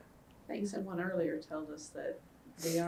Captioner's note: laughs